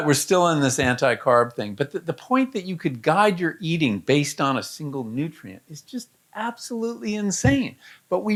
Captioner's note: none